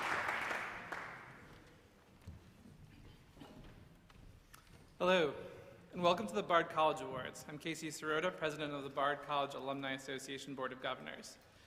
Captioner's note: applause